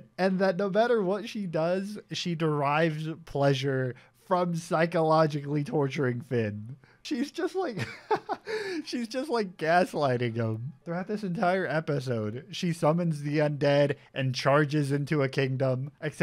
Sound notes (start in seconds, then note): 7.8 laughs